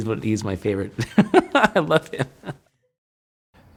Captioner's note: laughs